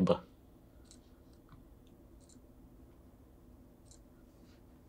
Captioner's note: mouse clicking